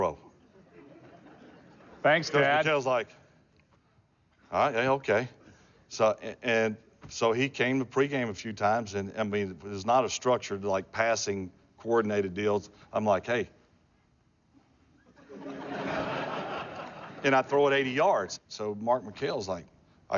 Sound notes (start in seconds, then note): 15.0 laughter